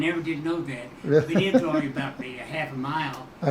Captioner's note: chuckling